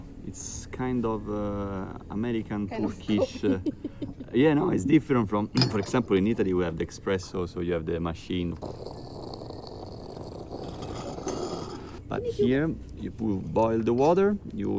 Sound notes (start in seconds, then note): 8.3 sound of coffee